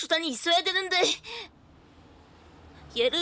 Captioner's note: car approaching in the distance